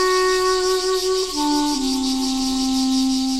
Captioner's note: birds squawking